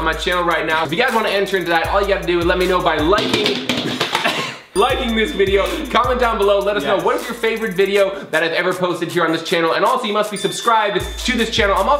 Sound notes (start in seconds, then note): 3.5 drum sounds; 3.5 laughing